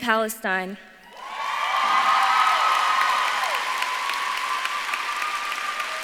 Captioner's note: audience claps and cheers